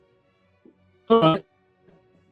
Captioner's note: distortion